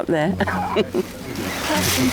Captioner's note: chuckling